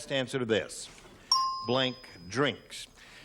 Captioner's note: ding